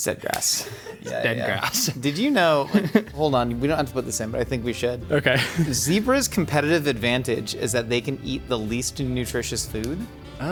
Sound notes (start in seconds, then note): 0.6 chuckling; 1.8 crew member laughing; 5.2 chuckling